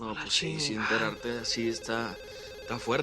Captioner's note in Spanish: Suena el teléfono